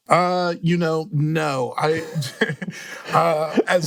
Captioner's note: chuckles